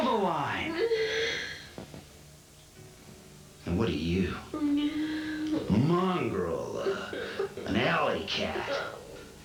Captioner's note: crying